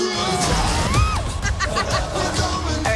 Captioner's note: laughs